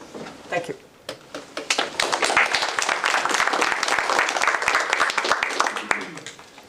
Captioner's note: applause